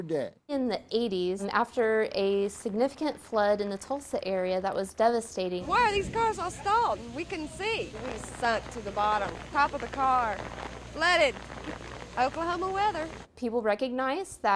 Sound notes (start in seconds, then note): 11.3 sound of rain